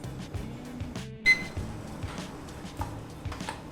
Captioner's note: upbeat music; beeping sound